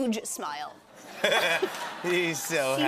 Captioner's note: laughter